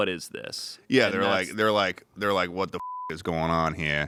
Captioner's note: beep